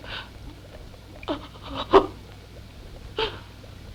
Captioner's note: crying